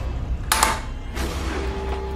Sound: door slamming; door locking; scary music

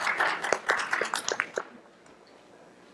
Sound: applause

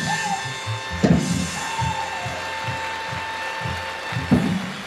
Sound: audience applauds

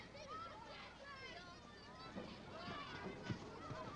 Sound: children shouting

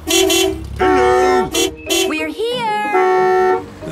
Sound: beeping

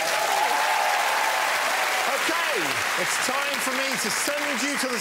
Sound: applause

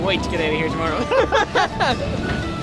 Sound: laughter

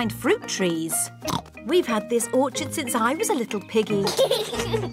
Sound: oinks; children giggle

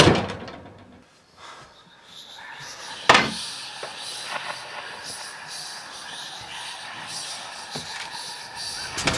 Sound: ghostly whispering

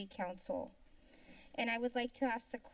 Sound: silence

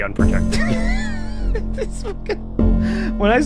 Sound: laughs

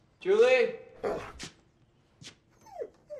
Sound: dog whimpers

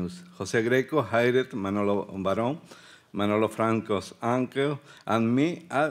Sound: speaking Spanish

